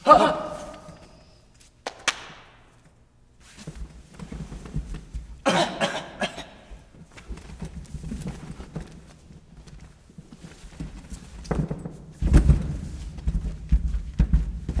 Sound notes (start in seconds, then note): 1.8 hand claps; 5.4 coughing; 12.2 rustling and banging